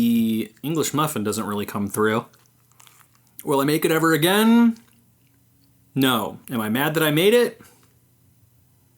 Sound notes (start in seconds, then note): 4.7 chomp